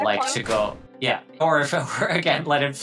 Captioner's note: graphic thudding